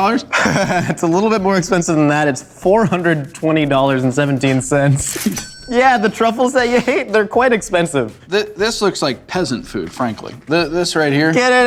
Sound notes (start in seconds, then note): 0.1 laughs; 5.2 cha-ching